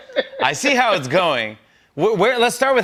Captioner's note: laughs